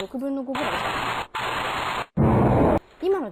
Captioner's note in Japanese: バチバチ… ドォォォン！